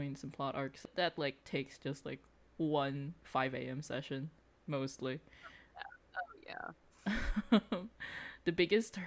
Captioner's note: laughs